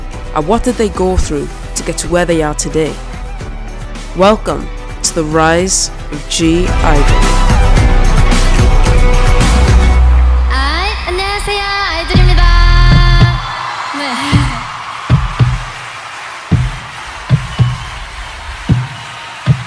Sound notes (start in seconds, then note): 14.6 cheers